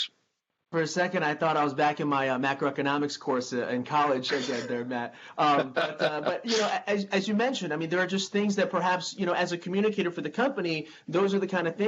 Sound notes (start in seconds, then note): 5.4 chuckles